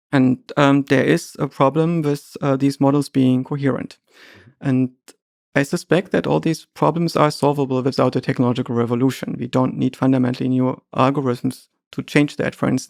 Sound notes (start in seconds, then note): none